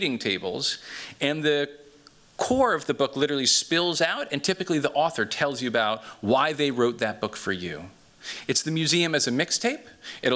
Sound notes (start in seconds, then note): none